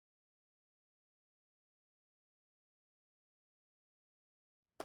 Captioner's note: faintly speaking